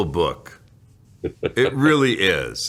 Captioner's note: chuckles